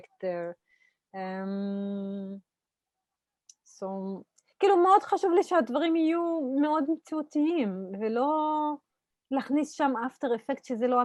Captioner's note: Hebrew